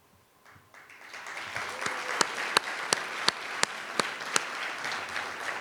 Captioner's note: audience applauding